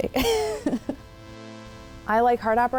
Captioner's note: laughs